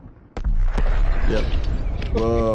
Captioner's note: explosion banging